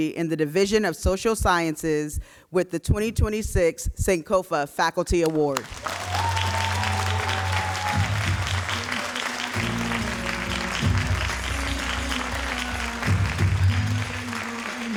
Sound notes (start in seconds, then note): 5.6 all applauding and cheering; 9.7 upbeat music